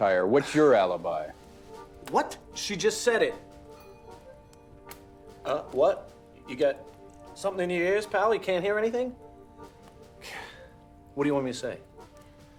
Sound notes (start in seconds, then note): 3.7 doorbell ringing